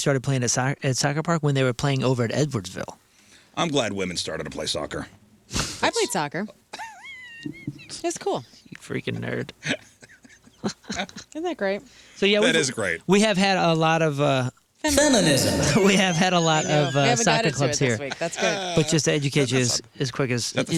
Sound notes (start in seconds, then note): 6.7 laughing; 11.1 laughing